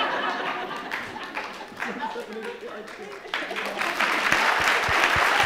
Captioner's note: crowd applauds; crowd laughs